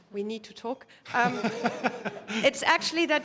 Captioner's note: laugh